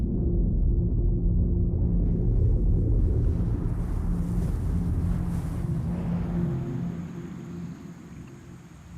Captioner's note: whooshing noise